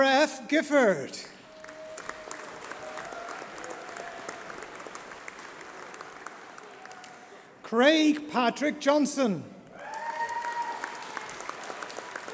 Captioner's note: applause